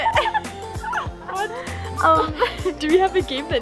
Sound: laughing

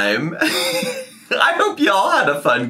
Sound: laughing

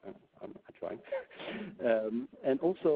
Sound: chuckles

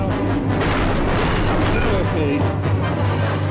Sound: crash

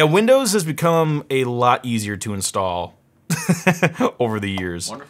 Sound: laughs

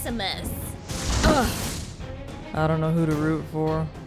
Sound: magic exploding; Taylor grunting

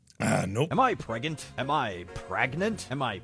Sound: none

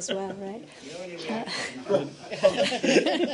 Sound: laughter

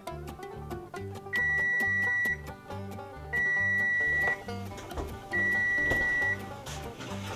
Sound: oven beeps

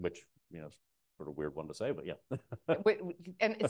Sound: laughs

